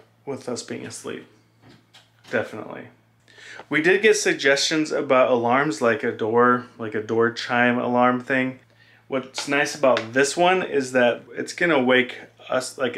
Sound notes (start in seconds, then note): none